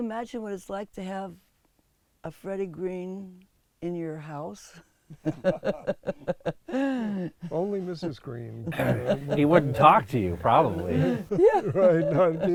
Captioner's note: laughs